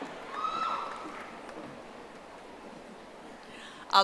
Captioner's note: audience applauding